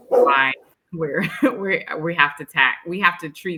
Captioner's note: dog barking drowns out speaker; laughs